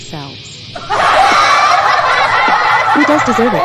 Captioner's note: troublemakers Laughing